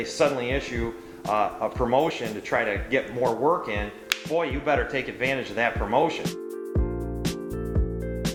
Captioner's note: snaps